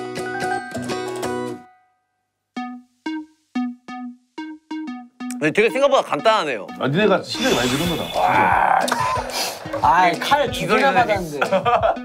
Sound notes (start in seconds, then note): 8.4 laugh